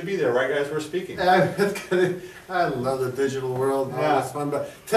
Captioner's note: laughs